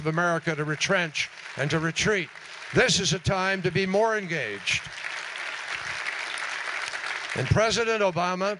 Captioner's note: applause